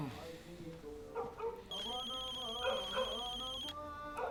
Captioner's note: foreign language music on stereo; dog barking